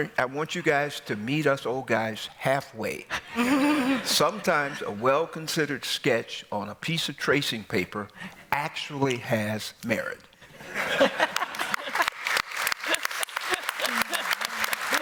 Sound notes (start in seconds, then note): 10.6 laughter; 11.3 applause